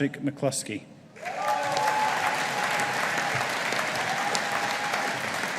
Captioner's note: audience applauding